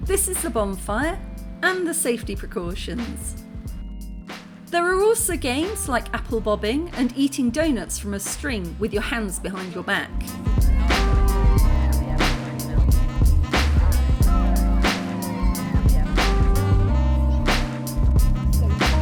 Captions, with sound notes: This is the bonfire and the safety precautions. There are also games like apple bobbing and eating doughnuts from a string with your hands behind your back. [chill music] [background chatter]